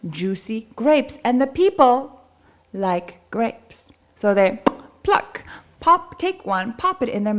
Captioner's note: pop